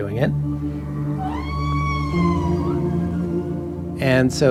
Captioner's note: whale calling